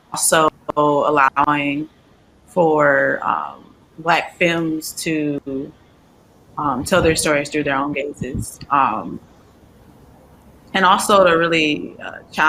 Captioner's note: audio cutting out